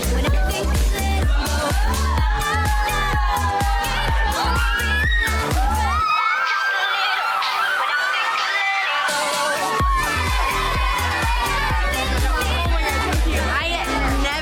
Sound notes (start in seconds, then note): 2.7 upbeat music; 2.7 women cheering